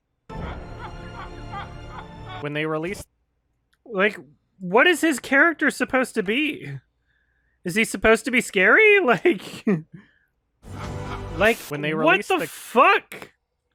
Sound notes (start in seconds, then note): 0.4 cackling; 9.2 chuckles slightly